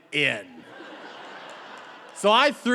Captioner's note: audience laughing